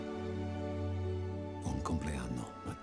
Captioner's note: speaking spanish